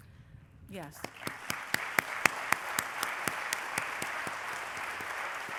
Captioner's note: applause